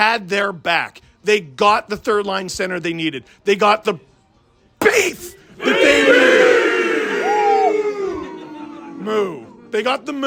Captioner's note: crowd yells beef, mooing